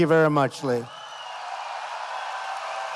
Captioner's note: applause